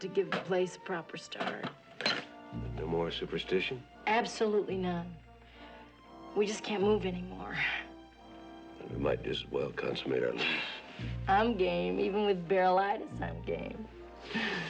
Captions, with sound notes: to give the place a proper start. Then no more superstition? Absolutely none. We just can't move anymore. We might just as well consummate our lease. [chuckling] I'm game. Even with barrelitis, I'm game.